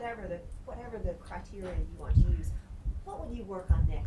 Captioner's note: none